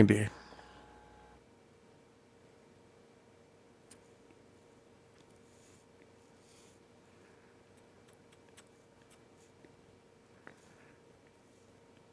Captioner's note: silence